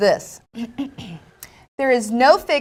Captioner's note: clears throat